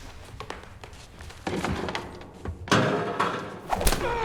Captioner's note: footsteps, thud; whoosh, thud